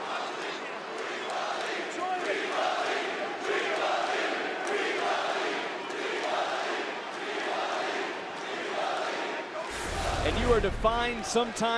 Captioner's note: crowd chants